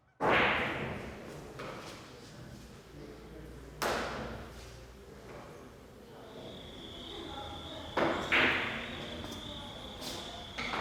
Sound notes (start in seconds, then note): 0.3 billiards balls clacking; 6.0 crickets chirping